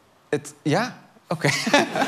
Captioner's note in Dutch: gelach